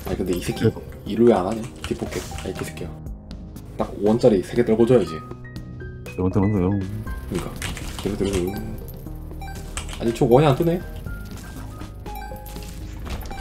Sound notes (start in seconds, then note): 7.1 coin sounds